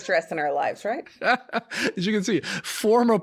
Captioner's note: laughing